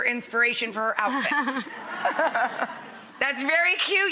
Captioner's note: laughing